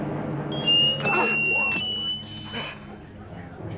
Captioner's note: whistle